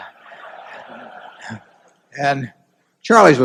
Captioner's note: laughter